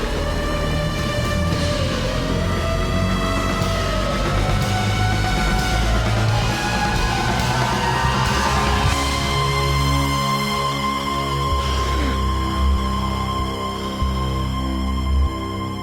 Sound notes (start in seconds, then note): 11.6 gasp